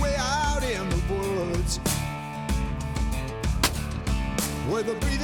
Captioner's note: gunshot